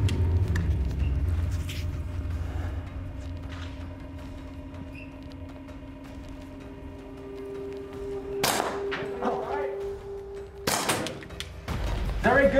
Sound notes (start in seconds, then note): 7.2 foreboding music; 8.4 gunshot sound